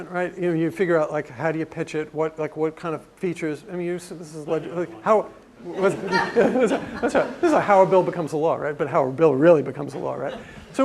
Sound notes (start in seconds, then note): 5.7 laugh